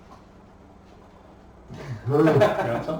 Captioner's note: laughing